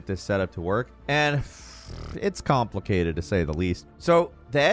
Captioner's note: blows raspberry